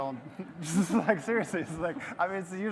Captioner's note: audience laughes